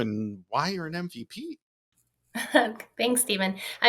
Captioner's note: chuckles